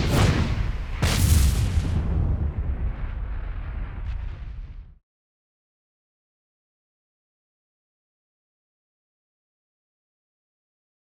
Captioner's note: whooshing sounds